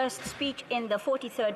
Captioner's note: speaking French